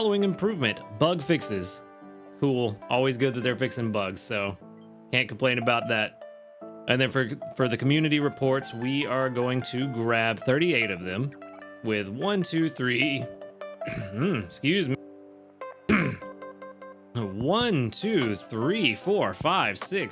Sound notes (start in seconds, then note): 15.9 clears throat